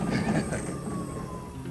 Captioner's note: chuckles